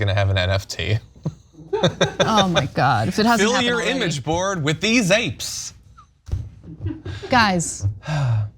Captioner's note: laugh